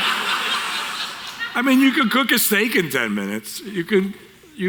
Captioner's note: audience Laughter